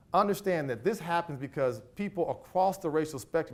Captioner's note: none